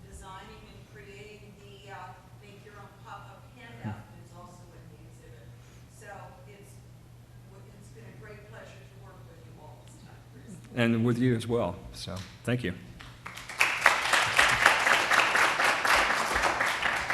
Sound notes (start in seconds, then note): 13.0 applause